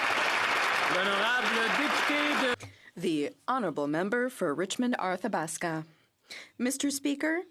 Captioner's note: applause